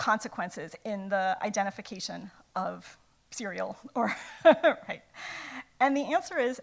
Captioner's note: laughs